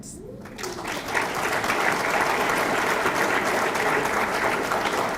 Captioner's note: audience clapping